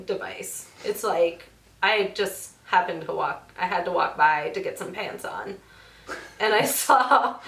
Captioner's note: both laugh